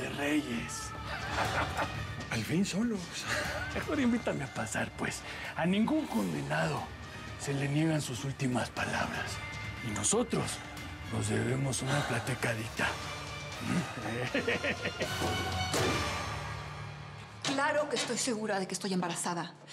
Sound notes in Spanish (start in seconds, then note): 14.0 risa alocada